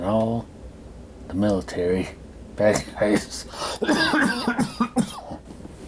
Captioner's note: coughing